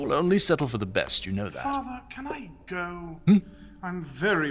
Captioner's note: sighing